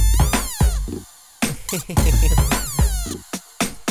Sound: giggles

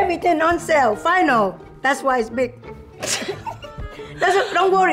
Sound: both laugh

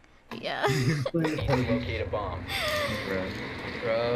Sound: laughing; sobs; chuckling

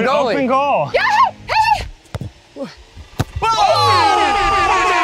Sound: yelling; cheering

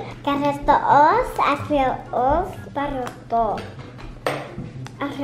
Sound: speaking gibberish

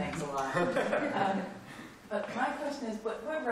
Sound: laughter

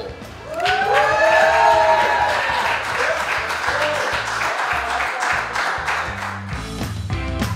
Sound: cheering & Clapping

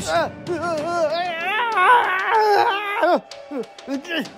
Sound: Ian struggling sounds

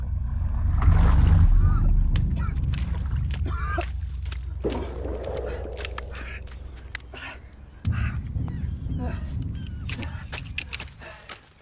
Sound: splash of a body hitting the water; cannon shot

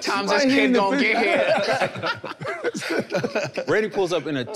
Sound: group laughs

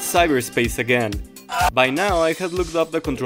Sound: eeuuughhh

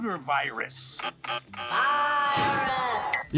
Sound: screen glitching

